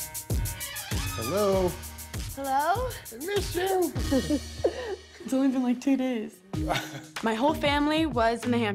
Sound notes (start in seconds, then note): 4.0 laughing; 6.6 chuckles